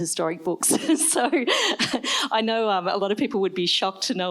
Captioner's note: laughs